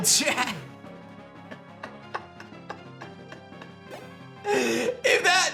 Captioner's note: laughs